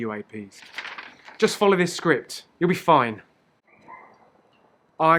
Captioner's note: paper rustles